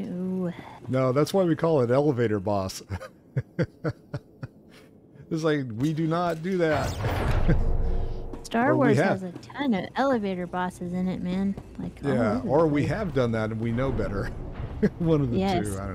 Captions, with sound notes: No, that's why we call it elevator boss. [LAUGHTER] It's like, we do not do that. Star Wars has a ton of elevator bosses in it, man. Like, I'm-- Yeah, or we have done that, and we know better. What do we do?